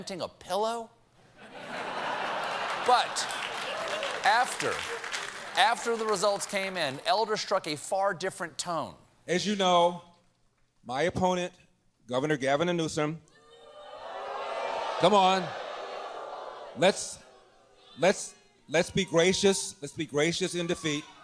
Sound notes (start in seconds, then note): 3.8 applause; 3.8 laughter; 13.4 crowd booing